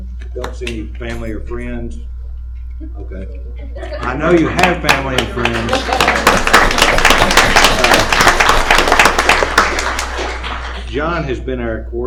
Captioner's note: applause